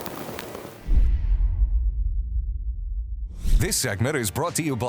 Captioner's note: logo thuds